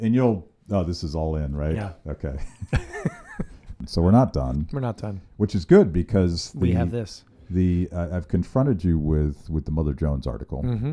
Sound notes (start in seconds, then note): 2.2 laughing